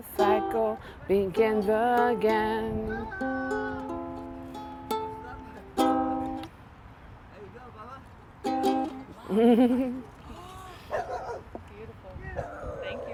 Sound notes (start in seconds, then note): 8.4 guitar strumming; 9.1 chuckles; 10.9 dog barking